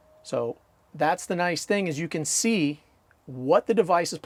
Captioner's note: none